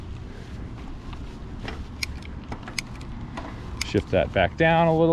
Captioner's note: button clicking